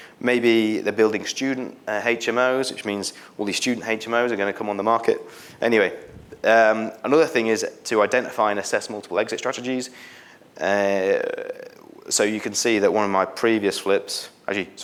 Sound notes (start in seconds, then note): none